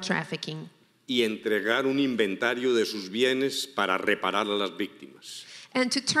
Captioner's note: speaking in foreign language